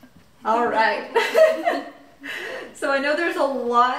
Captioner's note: everyone laughs